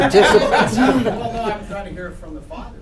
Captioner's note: laughter